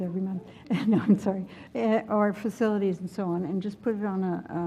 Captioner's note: laugh